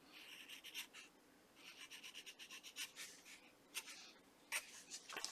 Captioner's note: pencil writing